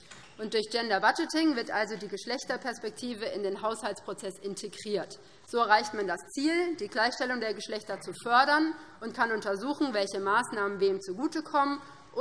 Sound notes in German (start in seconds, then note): none